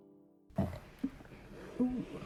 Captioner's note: lil burp